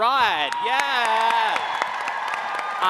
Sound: cheering

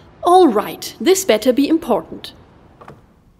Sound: none

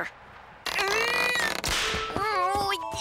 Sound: groaning

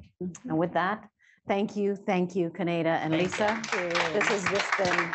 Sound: applause

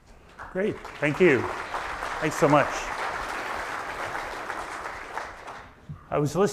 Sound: audience applauds

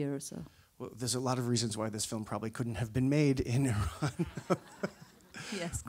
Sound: laughs

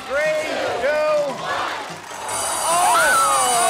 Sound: alarm rings; screams

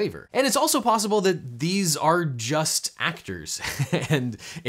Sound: laughs

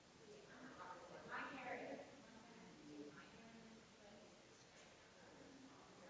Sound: people chattering distantly continues

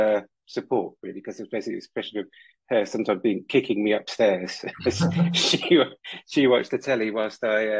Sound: laughs

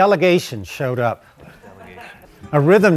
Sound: man laughing

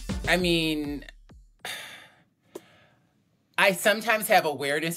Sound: sighs

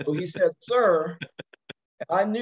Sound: laugh

